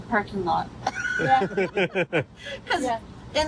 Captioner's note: everyone laughs